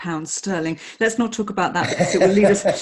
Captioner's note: laughing